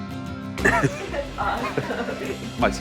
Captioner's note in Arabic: ضحك